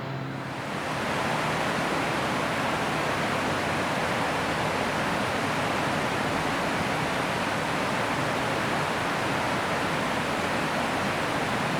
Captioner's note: flowing river